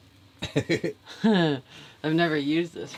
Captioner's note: chuckling